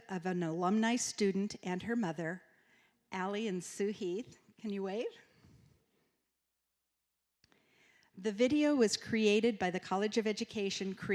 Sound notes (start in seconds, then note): none